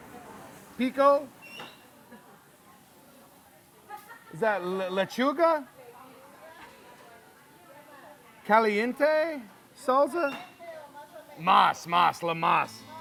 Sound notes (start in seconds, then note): 6.5 woman and speaking in a foreign language